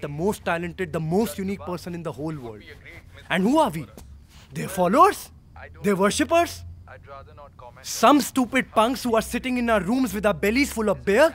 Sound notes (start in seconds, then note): none